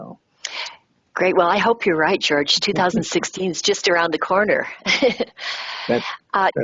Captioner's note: laughs